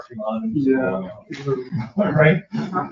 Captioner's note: members chattering